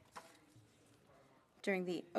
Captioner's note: speaking French